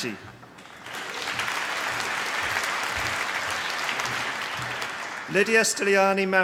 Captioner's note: applause